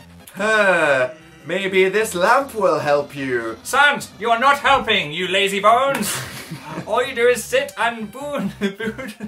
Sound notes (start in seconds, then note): 6.0 sniggers